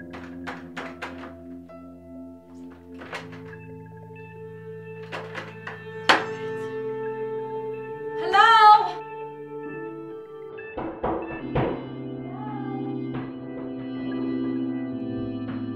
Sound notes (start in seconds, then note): 5.0 knocking